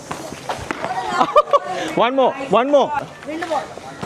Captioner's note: laugh